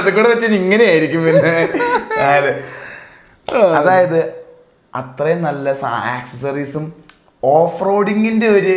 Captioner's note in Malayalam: പൊട്ടിച്ചിരി